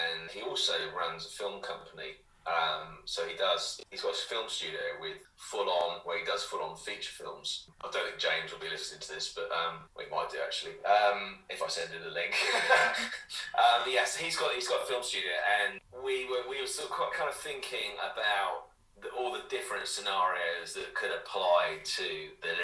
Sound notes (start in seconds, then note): 12.3 laughter